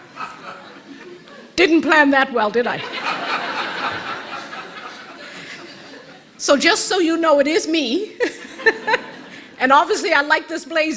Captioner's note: rires de l'auditoire; rires de l'auditoire